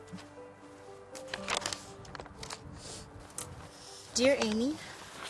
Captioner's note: papers crinkle